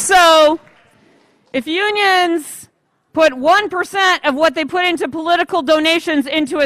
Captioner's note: applause